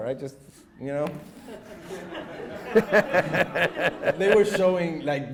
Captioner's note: audience laughs